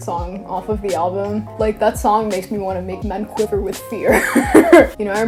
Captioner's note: laughs